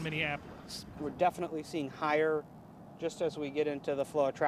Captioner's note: voiceover